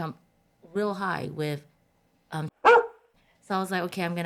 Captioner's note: bark